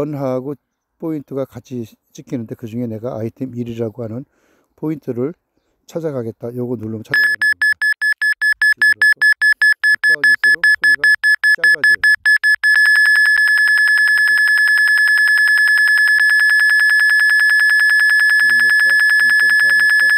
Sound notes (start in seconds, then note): 7.2 the beep sound gets shorter the closer